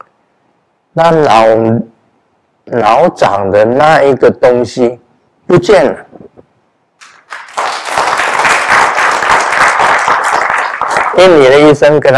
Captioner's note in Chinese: 眾鼓掌